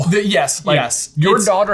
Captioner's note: chuckles